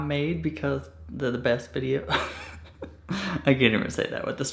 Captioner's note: laughing